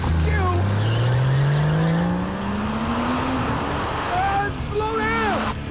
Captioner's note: car engine revs